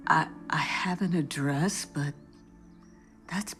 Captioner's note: none